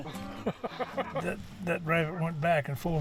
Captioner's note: laughs